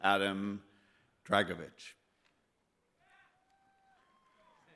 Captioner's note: clapping